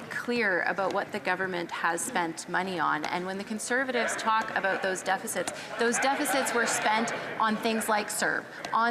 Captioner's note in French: voix de l'interprète